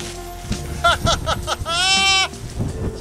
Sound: laughs

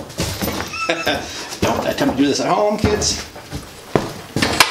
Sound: laughs

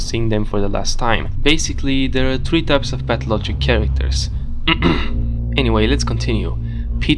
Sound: coughs

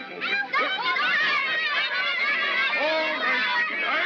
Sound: children yelling

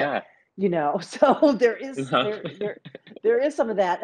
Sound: both chuckle

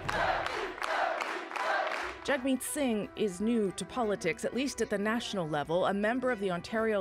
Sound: cheers and applause

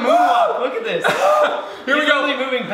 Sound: laughs

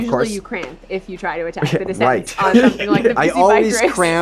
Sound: all laugh; scoffing

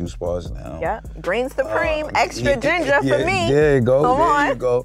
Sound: laughs

